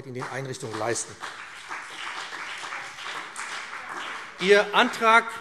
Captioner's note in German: Beifall BÜNDNIS 90/DIE GRÜNEN und CDU